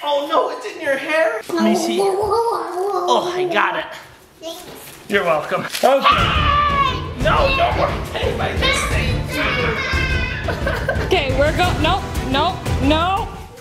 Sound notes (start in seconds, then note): 6.0 screams, dramatic music